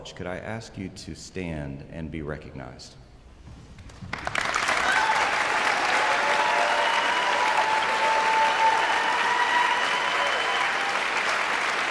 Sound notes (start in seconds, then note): 4.2 guests cheering and applauding